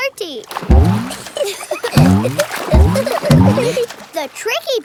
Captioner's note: giggling